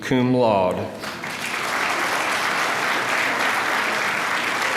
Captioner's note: applause